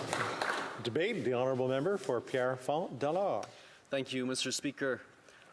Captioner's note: some Applause